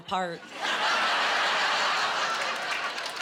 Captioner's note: laughing